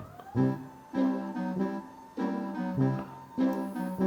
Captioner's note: desk whirs